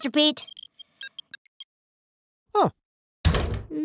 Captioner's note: device beeping